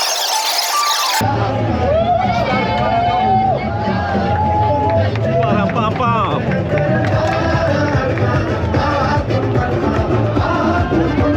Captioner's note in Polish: Aplauz